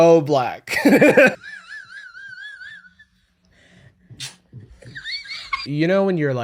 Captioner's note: whistling kettle laughter